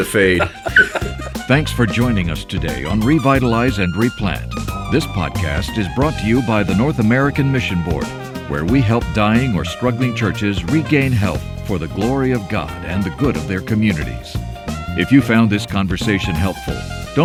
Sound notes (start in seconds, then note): 1.9 all laugh